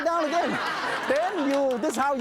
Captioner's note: audience laughs